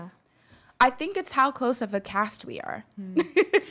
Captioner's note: laughs